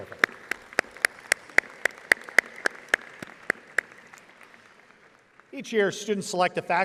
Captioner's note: audience applauding